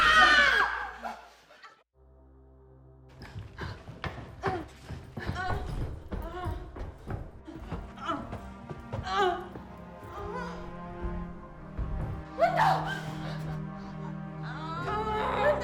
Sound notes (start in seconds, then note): 0.0 all screaming; 5.0 moaning; 13.2 gentle music